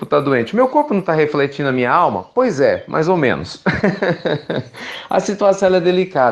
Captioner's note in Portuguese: Risos